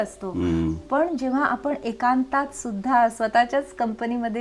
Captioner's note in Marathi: घसा साफ करणे